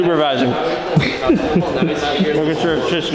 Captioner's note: cameraman chuckles